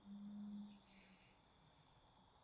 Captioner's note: soft exhale